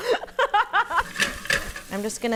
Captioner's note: laughs